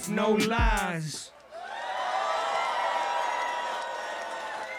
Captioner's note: audience cheers